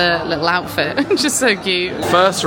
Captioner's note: chuckling